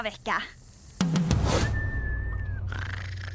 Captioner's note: snoring